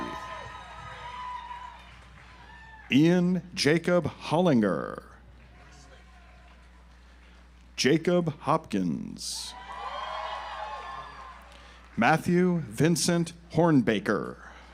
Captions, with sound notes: (audience applauds) Ian Jacob Hollinger. (audience applauds) Jacob Hopkins. (audience applauds) Matthew Vincent Hornbaker.